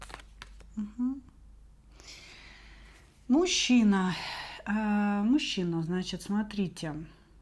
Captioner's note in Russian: вздыхает